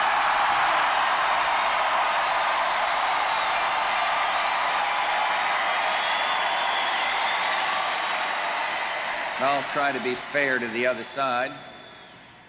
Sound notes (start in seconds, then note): 0.2 audience cheering and applauding; 6.3 cheering continues